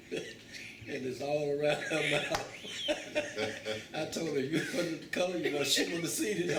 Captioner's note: laughter